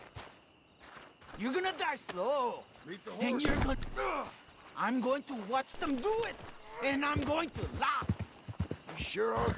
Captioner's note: grunts